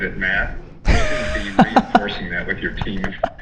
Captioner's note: laughing